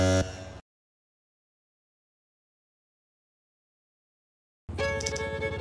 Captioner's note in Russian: тишина